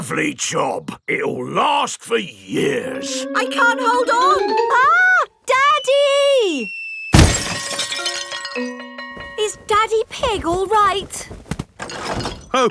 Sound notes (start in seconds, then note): none